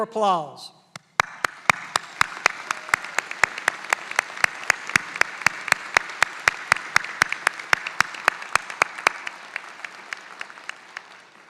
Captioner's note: applause